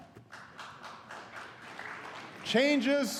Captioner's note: applause